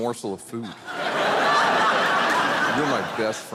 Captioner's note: audience laughing